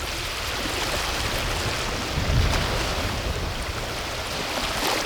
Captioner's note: water laps